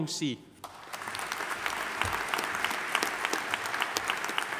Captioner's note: audience applauding